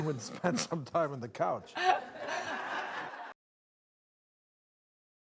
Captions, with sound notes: and spend some time on the couch. (laughter)